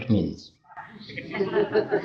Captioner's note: audience laughs